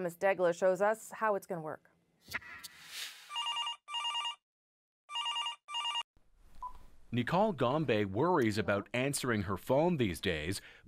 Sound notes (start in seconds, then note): 5.1 phone ringing